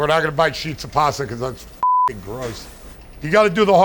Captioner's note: beeping